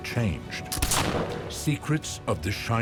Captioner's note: gunfire